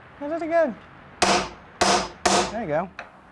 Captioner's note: clanking